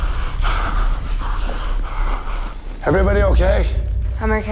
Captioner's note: Thompson panting; dramatic music